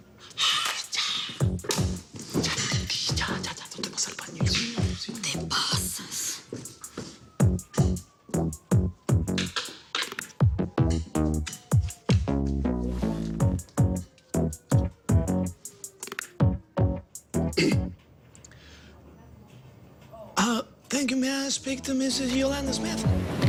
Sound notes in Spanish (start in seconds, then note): 17.5 Carraspea